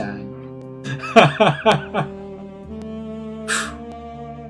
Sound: laughing; laughs

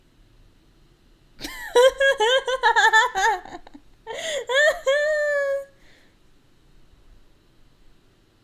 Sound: laugh

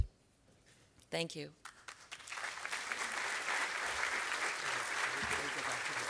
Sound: applause

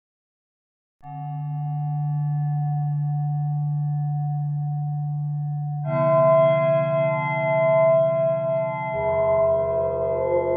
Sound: sound of bells ringing

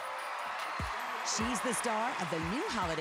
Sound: cheers and applause

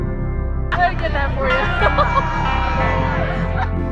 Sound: laughs

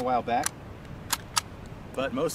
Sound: gun cocks

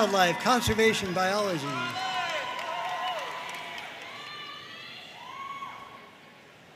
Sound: audience cheering and applauding

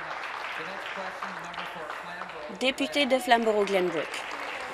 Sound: applause

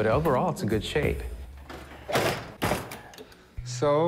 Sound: thump

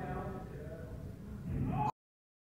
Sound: crash

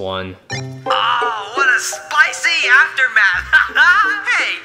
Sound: laughs

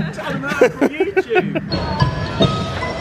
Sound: laughing; bright percussive music

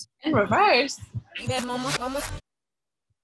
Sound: reversed audio

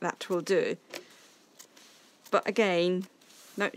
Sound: scissors snipping

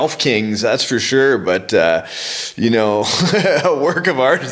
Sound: laughs

